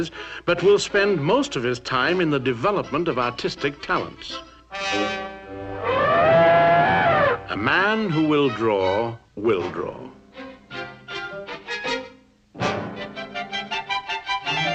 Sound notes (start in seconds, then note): 5.6 elephant sounds; 9.3 slow classical music